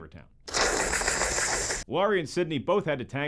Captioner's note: hissing